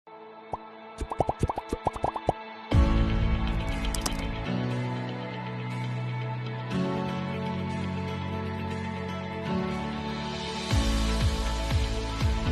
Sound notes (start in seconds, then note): 1.0 popping; 2.7 upbeat music